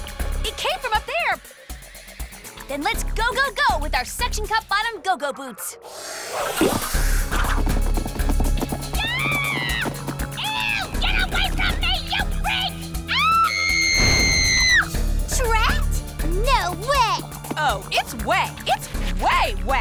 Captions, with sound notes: Then let's go-go-go with our Suction-Cup Bottomed Go-Go Boots! [MANDY SCREAMS] Eww! Get away from me, you freak! [SCREAMING] Trent? No way! Oh, it's way. It's way way!